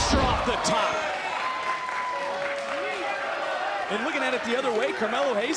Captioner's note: crowd cheering